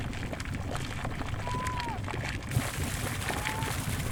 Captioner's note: lava splashes